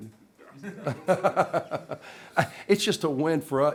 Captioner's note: laughter